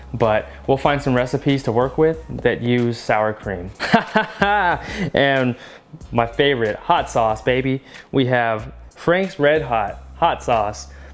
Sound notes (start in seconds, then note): 3.8 laughing